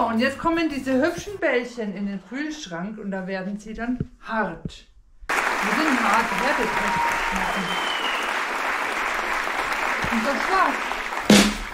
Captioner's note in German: beifall